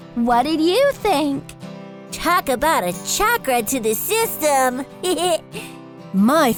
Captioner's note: laughs